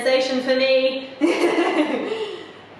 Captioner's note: laughs